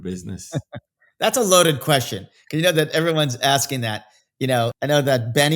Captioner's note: laughs